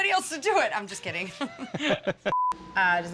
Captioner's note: laughter